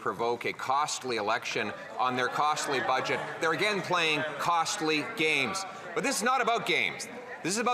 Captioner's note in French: voix de l'interprète